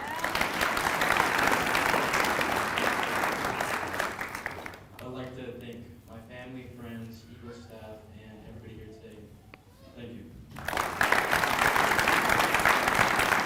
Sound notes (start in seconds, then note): 4.7 applause